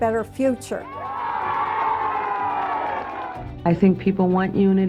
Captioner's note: cheering